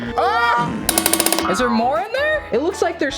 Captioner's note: lock clanging; lock squeaking